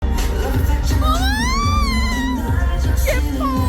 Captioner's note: screaming in excitement